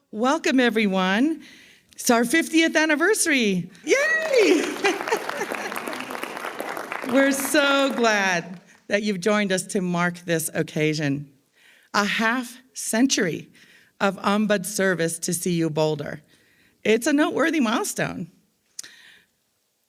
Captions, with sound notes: - Welcome, everyone. It's our 50th anniversary. Yay. (laughs) (attendees applauding) We're so glad that you've joined us to mark this occasion, a half century of ombuds service to CU Boulder. It's a noteworthy milestone.